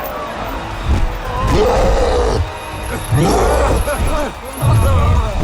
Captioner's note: growling